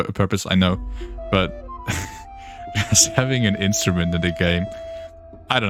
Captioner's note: giggles